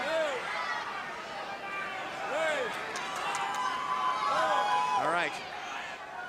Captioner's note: crowd cheering